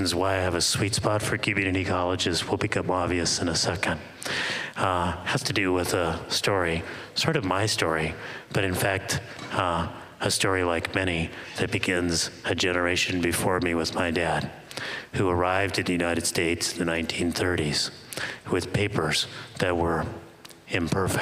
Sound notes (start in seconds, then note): none